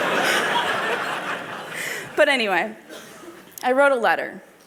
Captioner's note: laughter